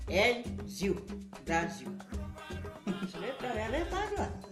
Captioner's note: laughs